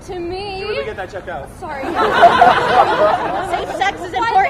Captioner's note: laughter